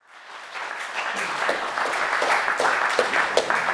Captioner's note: applause